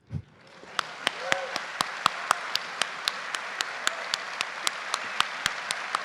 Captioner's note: and audience applauding